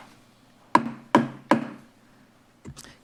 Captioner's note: gavel thumping